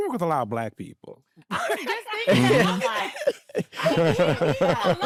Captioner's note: all laughing